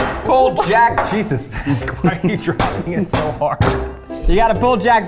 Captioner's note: laughs